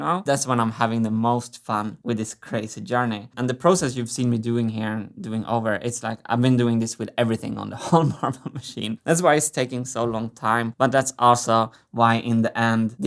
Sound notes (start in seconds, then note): 7.8 chuckles